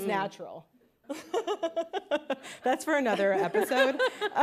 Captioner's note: laughs